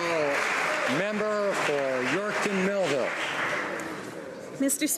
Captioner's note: some Applause